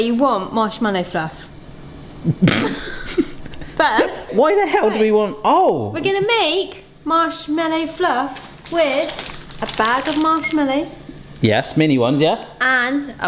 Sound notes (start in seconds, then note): 2.3 laughs